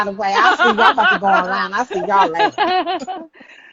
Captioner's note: laughing